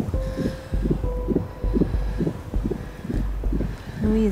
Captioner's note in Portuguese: respiração ofegante